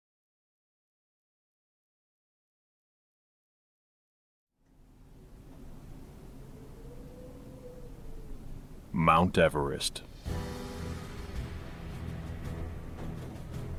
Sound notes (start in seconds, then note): 5.1 wind blowing; 10.1 tense music